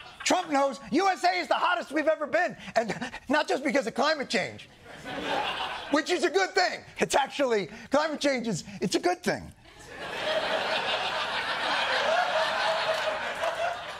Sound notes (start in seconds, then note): 9.7 laughter